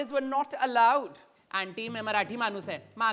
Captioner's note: Footsteps approaching